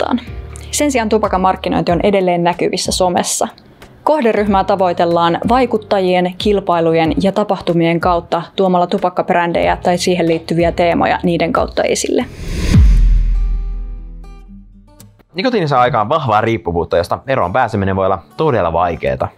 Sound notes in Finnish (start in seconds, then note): 12.2 siirtymä-äänitehoste